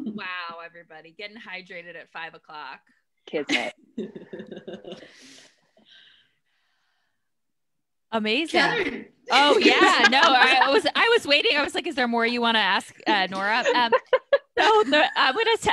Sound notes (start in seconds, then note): 3.4 laughs; 9.6 all laughs